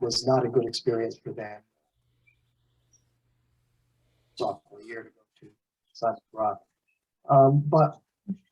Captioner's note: recording cuts out